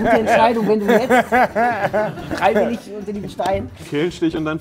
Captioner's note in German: Lachen